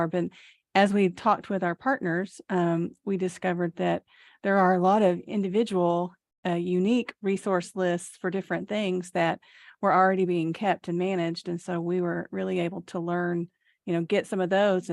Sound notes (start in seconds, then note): none